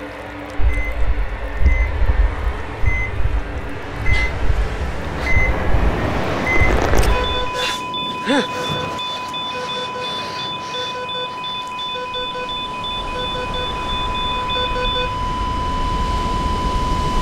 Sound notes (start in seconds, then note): 0.1 beeping; 6.6 beeping intensifies; 14.4 flatline